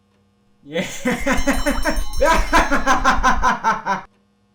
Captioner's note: alien laughing